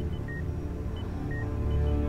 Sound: monitor beeping; gentle suspenseful music

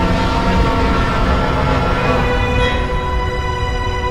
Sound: light dragon roars

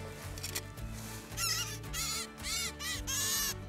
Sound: squawking

